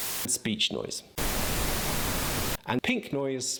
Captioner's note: static blaring